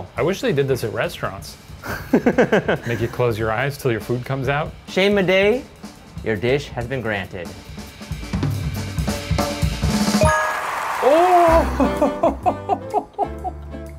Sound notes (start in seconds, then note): 7.7 dramatic music; 10.3 audience applauding